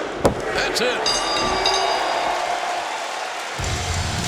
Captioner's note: bell dinging